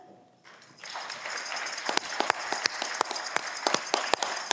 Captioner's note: audience clapping